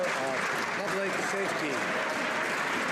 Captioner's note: some Applause